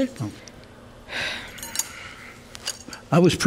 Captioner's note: exhales